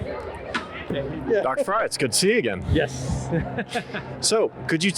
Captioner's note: laughs